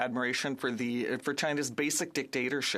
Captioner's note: speaking French